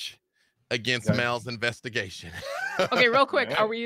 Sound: laughs

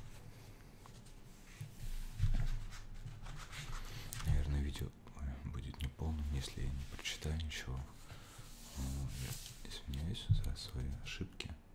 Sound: in Ukrainian

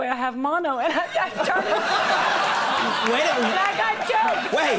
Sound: audience laughs

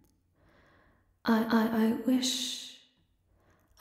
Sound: her mechanical voice skipping, like a cracked record

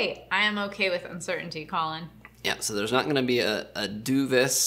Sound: none

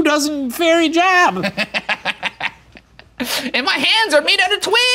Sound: laughing

